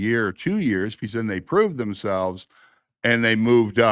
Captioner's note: none